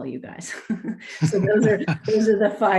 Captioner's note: chuckles